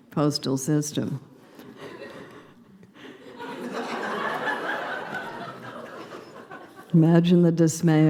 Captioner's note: laughter